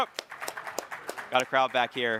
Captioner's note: crowd clapping